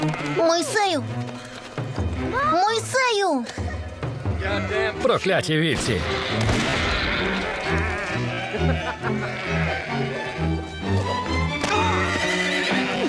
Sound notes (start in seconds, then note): 5.7 gunshots; 11.5 smack, man grunting